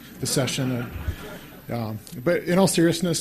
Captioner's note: laughter